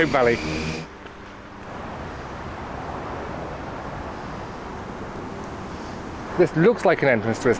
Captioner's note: traffic noise